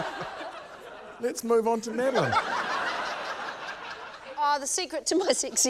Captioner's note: laughter